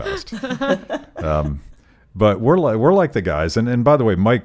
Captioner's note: laughing